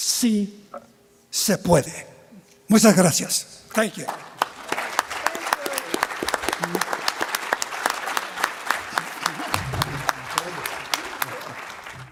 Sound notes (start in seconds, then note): 6.0 applause